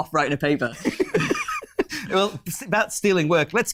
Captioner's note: laughing